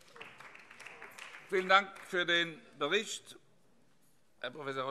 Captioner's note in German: Beifall BÜNDNIS 90/DIE GRÜNEN